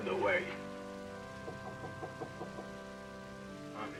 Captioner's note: knocking at door